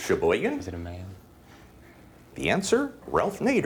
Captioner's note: whispering